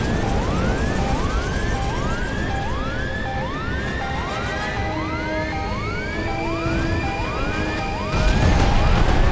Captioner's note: aircraft alarms going off